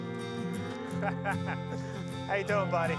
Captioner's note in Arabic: يضحك الرجل